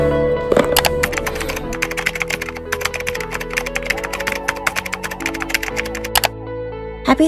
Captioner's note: keyboard Clicking & Typing